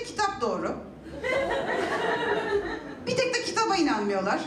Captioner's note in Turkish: Gülüşmeler